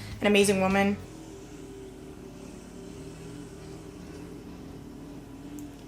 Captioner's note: lawnmower engine roaring